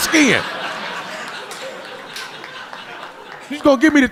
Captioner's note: audience laughing